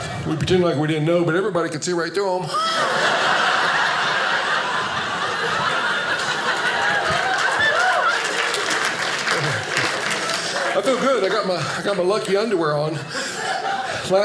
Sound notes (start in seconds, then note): 2.8 audience laughing; 7.1 audience applauding